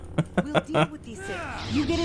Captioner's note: laughs